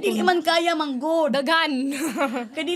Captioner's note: chuckles